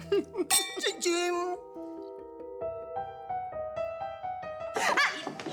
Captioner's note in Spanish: Risas